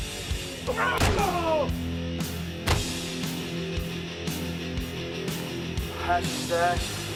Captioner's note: AJ cries out; Undertaker groans